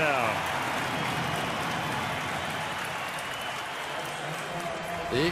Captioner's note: cheering